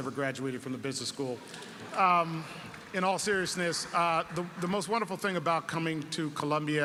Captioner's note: laugh